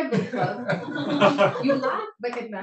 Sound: laughing

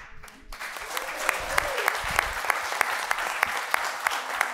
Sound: audience applauds

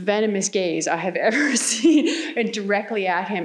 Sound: laughs

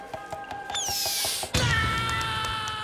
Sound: screaming

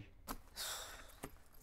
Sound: sighs

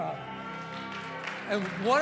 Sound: congregation cheering

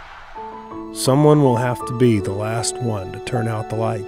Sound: voiceover

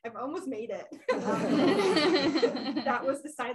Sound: laughter

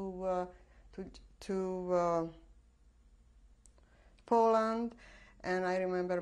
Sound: pauses for 3 seconds

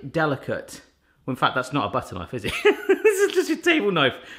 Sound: laughs

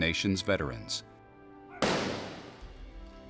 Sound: gunshot

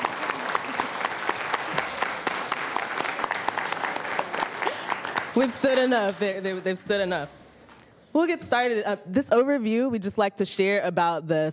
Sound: applause

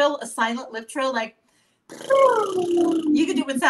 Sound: lip-trilling

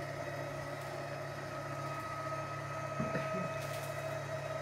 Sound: whirring continues

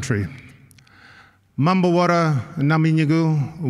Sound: non-english speech

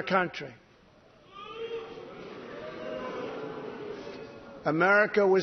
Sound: jeering

